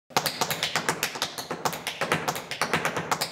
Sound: shoes tapping

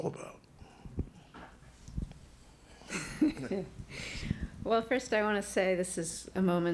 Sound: laughs

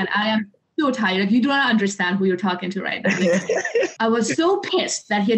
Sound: laughter

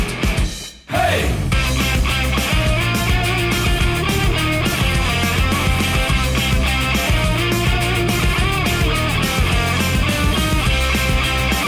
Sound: yelling to band

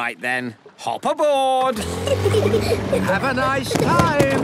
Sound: children giggling

